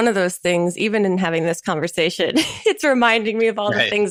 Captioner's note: chuckles